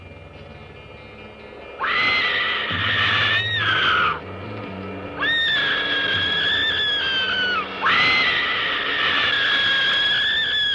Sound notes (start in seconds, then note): 1.8 screams